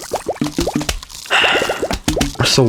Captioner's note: exhales Oxygen